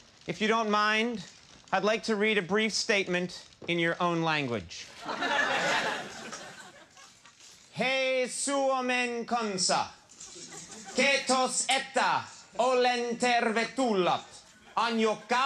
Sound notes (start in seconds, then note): 4.9 crowd laughing; 7.6 speaks in foreign language; 10.2 audience laughing